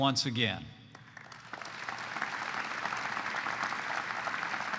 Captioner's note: applause